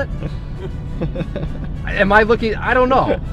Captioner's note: laughs